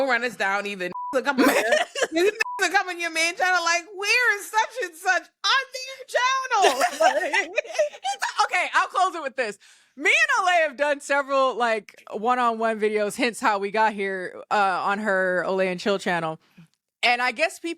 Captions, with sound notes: (beep) (laughing) You (beep) in your main channel, like we're in such and such on the channel. (laughing) Okay, I'll close it with this. Me and Olay have done several like one-on-one videos, hence how we got here on her Olay and Chill channel. And I guess people had already decided